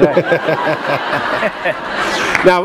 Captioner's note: laughter